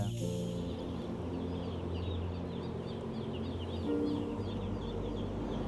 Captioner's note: chicks chirping